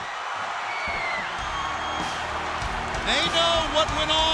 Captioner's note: crowd cheering